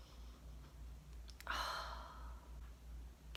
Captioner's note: smells candle, sighs